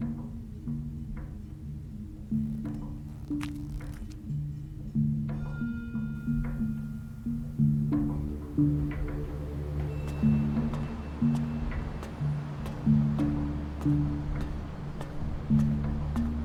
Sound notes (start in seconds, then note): 0.2 tense dramatic music; 9.9 metal clanking; 11.2 footsteps thudding